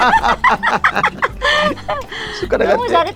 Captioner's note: both laughing